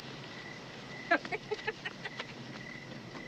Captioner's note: Sam laughing